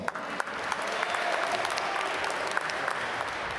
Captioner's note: applause